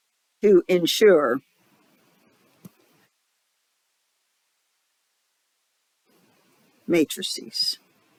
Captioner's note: 5-second silence